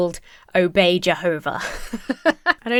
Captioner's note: laughs